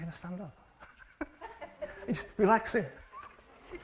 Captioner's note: laughing